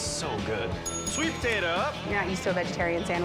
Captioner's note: bell dings